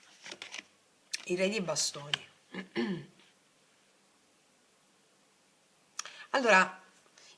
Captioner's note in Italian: schiarire la voce